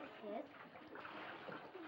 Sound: water splashing

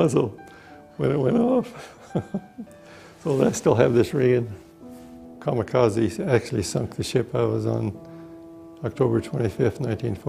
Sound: laughs

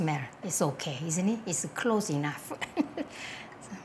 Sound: chuckles

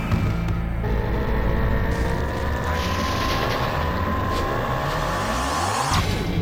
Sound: yelling; victory music

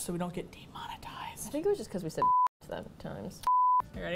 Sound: whispers

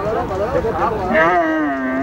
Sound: foreign spoken audio

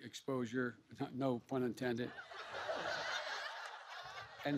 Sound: laughter

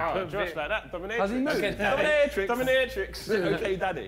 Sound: group chatters

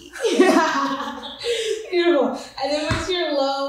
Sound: laughs

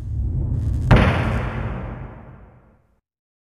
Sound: logo clangs

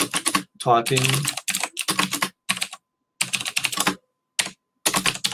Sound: keyboard clicking

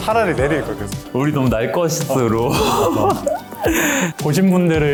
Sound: haha

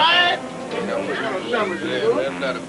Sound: indistinct chatter

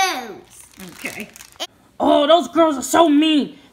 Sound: voiceover

